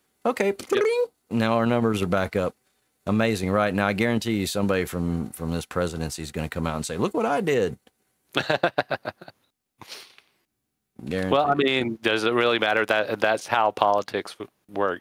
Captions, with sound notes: Okay, now our numbers are back up. Amazing, right? Now I guarantee you somebody from this presidency is gonna come out and say, look what I did. (laughing) - Well, I mean, does it really matter that that's how politics work?